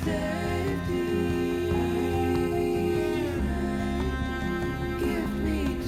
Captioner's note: echoes